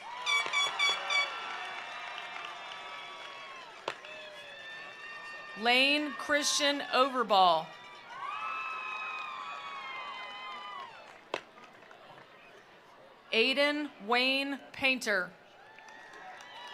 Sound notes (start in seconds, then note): 0.0 attendees applauding; 0.1 attendees cheering; 8.1 attendees applauding; 8.1 attendees cheering; 15.5 attendees cheering; 15.6 attendees applauding